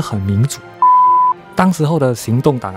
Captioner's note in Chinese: Beep…